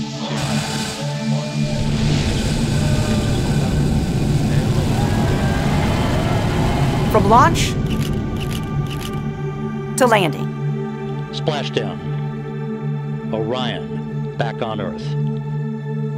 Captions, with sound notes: two, one. [ cheering ] >> From launch... [ camera shutter clicking ] ...to landing... >> Splashdown. Orion back on Earth.